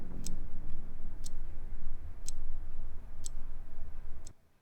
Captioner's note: watch ticks rhythmically